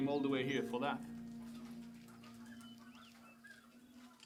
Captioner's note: chickens clucking